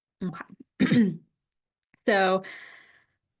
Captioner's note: clears throat